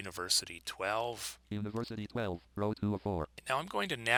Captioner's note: synthesized speech